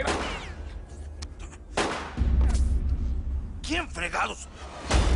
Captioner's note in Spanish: Disparos